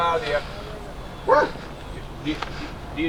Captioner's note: homeless person chattering